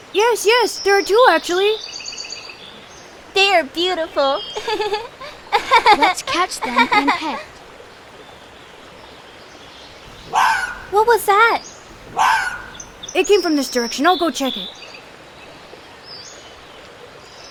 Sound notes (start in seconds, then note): 4.6 giggles; 10.0 animal screeching